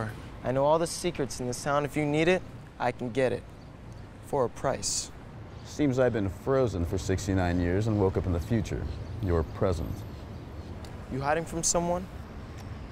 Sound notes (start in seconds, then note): none